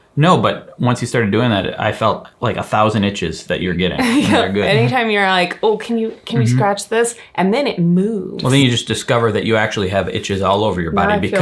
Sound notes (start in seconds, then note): 4.0 chuckles